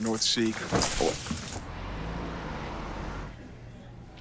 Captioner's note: rustling; tree thudding